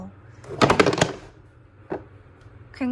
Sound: sound of "I dropped something"

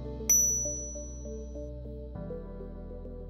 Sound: gentle upbeat music begins; icon chiming

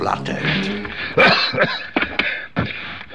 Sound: coughs

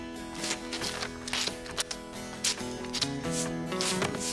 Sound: brushes Slapping

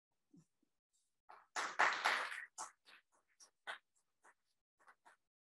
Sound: audience clapping

